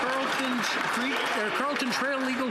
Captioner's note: some Applause